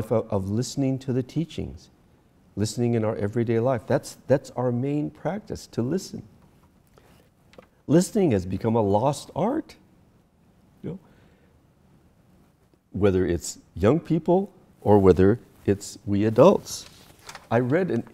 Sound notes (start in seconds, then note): none